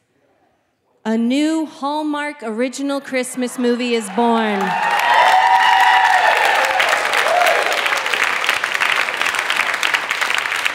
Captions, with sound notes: a new Hallmark original Christmas movie is born (audience cheering) (audience clapping)